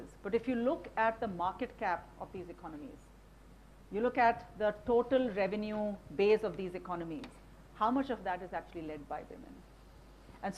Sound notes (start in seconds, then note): none